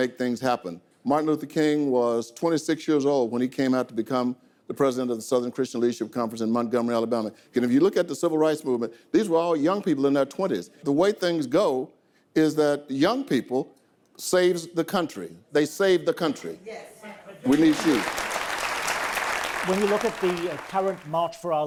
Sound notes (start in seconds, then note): 17.4 audience applause